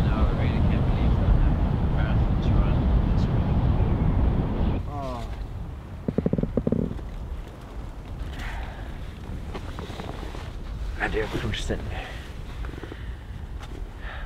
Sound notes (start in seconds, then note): 8.3 exhales